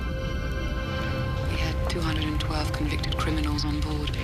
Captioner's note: none